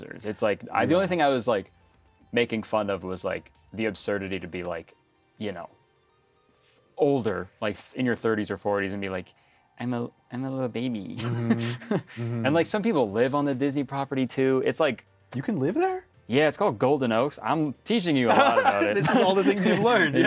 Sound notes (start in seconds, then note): 11.2 laughs